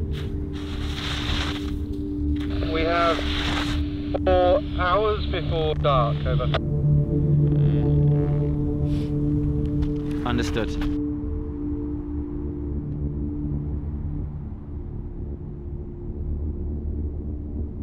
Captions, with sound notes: [scraping] [voice over radio] We have four hours before dark. Over. Understood.